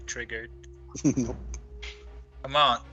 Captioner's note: sniggering